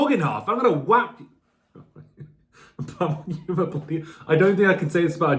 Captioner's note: cracking up